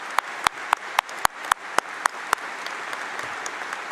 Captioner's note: applause